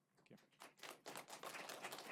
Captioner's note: applause